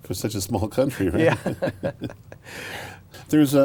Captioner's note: laughs